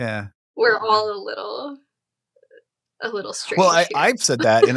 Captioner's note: chuckling